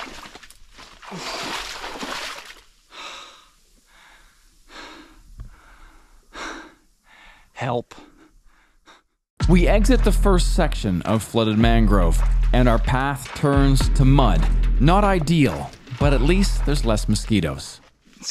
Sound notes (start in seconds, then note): 3.8 panting